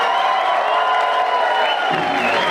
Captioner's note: audience cheering